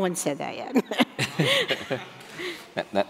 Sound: laughing

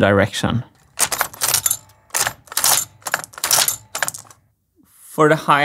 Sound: clack x4

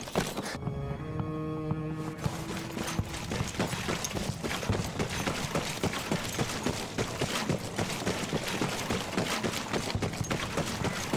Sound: water cooling

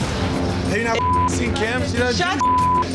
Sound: beep

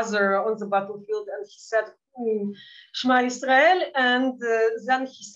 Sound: speaking in Yiddish

